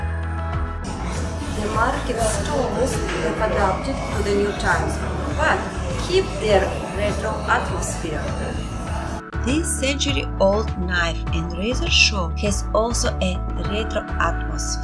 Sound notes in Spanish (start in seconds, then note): 7.0 Murmullo de mercado; 13.4 Ruido callejero